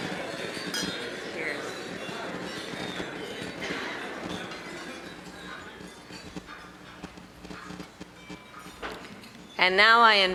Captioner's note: cheers